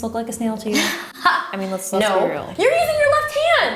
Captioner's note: laughs